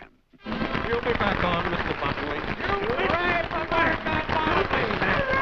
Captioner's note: crowd clapping